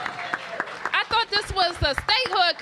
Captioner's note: applause